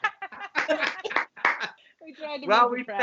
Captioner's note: laughter